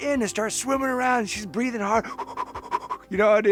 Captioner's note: panting